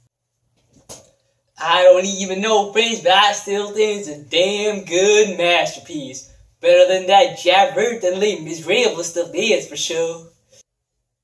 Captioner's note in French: in french